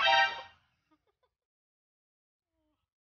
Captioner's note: laugh